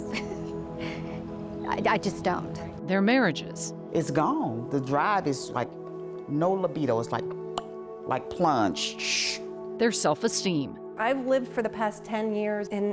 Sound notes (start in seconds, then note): 0.0 chuckles; 7.5 clicks tongue; 9.0 hisses